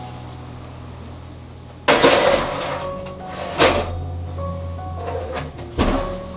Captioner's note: heated oven